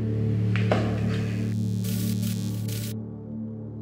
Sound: glitch sfx

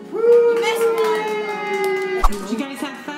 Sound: cheering

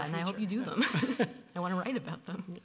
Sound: chuckles

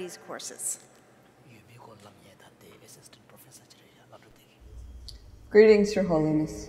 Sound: speaking foreign language

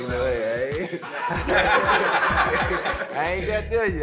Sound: laughter

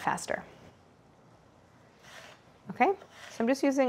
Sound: apples slicing

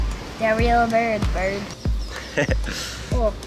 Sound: chuckles

